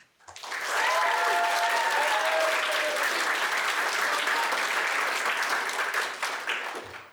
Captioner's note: applause